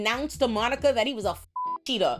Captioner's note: beep